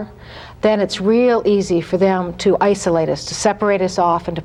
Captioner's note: none